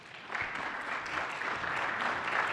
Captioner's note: applause